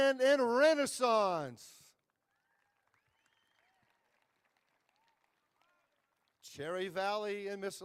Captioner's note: applause